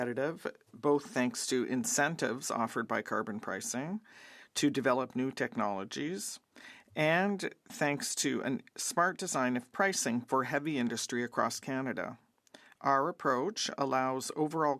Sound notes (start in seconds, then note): 5.4 speaking French